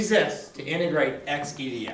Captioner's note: voiceover